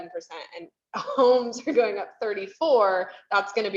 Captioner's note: chuckles